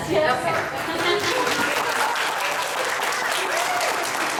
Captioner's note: applause